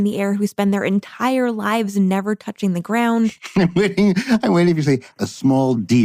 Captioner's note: laughs